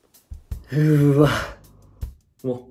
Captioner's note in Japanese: ため息交じり